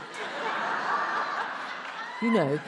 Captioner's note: attendees laughs